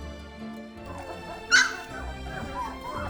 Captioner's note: puppy barks